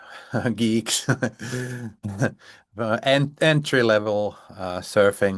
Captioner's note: laughs